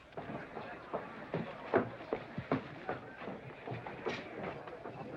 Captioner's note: loud, brisk footsteps